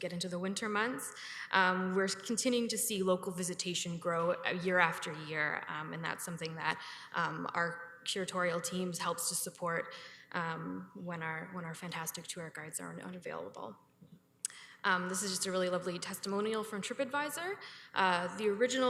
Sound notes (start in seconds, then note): none